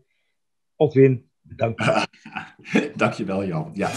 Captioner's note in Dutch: gelach